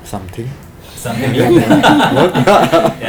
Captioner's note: laughs